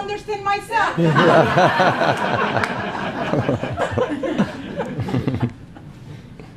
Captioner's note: laughing